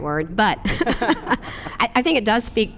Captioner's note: laughs